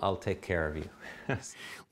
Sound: laughter

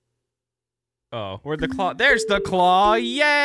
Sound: none

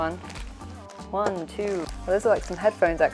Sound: plastic crinkling

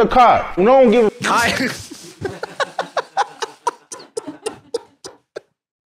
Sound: both laughing

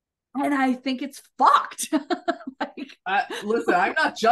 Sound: laughs

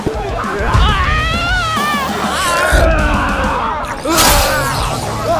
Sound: screams

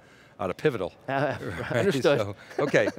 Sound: laughs

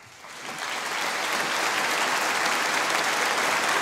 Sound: audience applauding

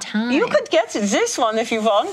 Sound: imitates German accent

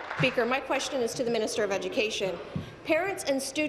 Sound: applause

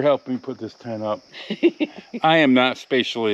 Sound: laughs

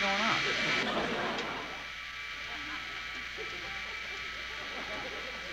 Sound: buzzing

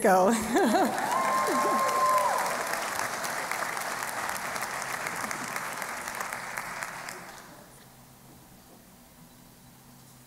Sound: applause

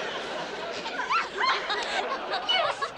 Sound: laughing

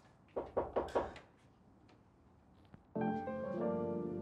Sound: knocking on door; jazzy music

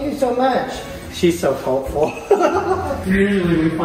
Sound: laughs

